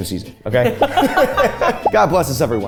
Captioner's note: both laugh